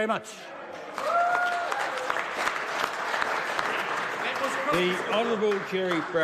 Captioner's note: applause